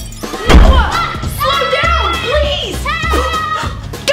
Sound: screaming

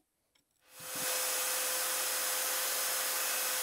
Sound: saw zings

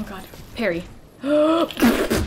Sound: deep inhale

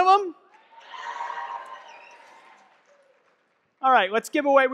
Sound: audience clapping and cheering

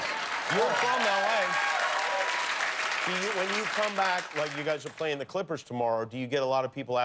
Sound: cheers and applause

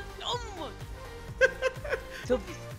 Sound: laughing

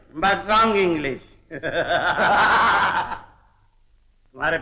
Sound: laughing

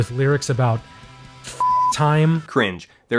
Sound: beep

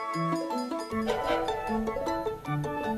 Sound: sfx: train whistle

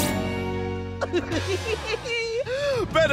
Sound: Pillow Pirate chuckling

